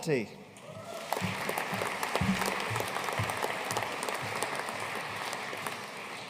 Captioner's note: audience cheering and applauding